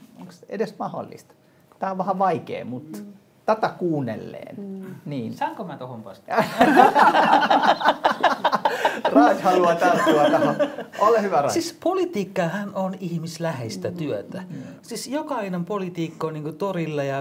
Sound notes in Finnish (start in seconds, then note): 6.4 äänekästä naurua